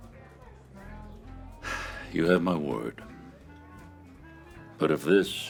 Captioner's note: sighs